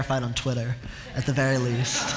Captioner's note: laughter